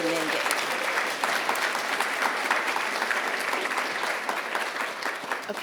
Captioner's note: audience applauding